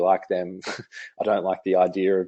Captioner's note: laughs